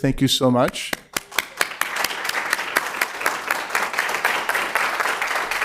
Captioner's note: applause